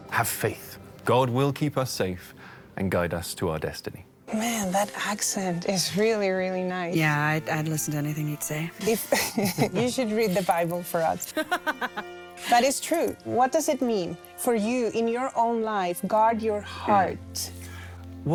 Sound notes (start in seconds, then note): 8.8 Elizabeth and Timothy laugh; 11.2 laughs